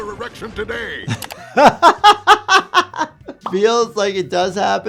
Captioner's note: doctor laughs